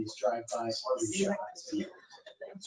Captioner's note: speaking faintly